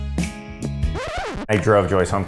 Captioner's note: sultry music; record scratches